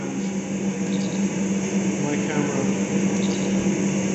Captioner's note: machinery humming loudly